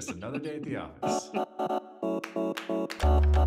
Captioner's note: laughs